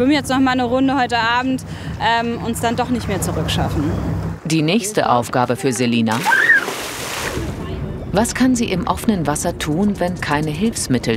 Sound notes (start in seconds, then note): 6.2 scream